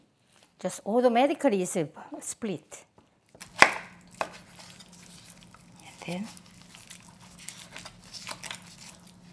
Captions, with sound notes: Just all the meat split. (chopping) And then.